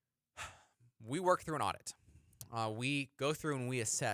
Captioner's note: sighs